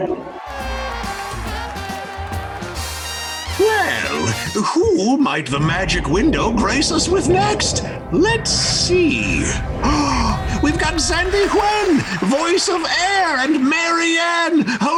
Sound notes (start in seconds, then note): 0.0 audience cheering; 10.0 gasping